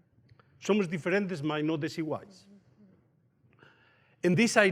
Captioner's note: speaks in foreign language